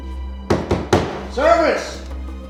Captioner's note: thuds